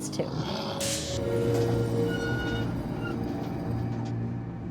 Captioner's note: door hinges creak